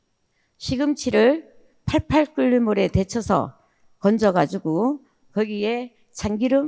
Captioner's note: speaking in foreign language